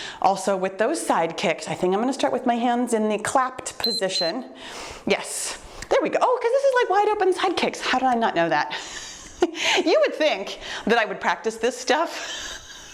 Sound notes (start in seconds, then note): 3.8 timer beeps; 8.8 chuckles; 12.2 chuckles